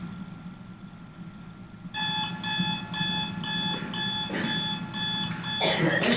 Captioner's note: alarm ringing